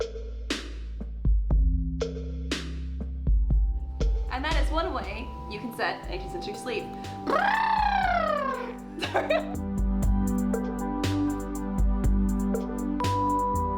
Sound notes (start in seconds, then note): 7.3 awkward elephant noise & laughter because is a weirdo